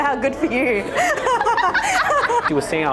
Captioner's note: group laughs